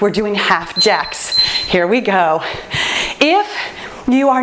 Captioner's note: timer beeps